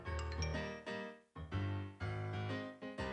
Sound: chime

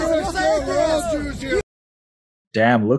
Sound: people talking in video clip

